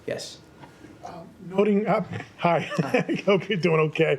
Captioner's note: laughter